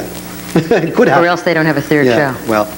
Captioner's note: laughs